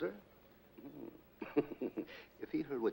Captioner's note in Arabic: هانيبال يضحك